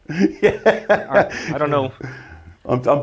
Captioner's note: laughs